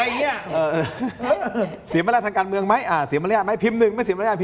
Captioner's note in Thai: เสียงหัวเราะ